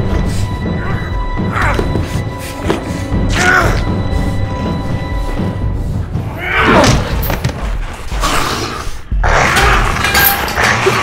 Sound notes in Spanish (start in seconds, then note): 0.2 Gritando; 2.3 música intensa; 6.6 Gritando; 8.1 gruñendo